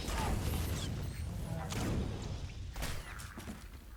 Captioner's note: gun firing